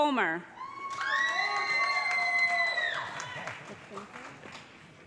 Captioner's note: cheers and applause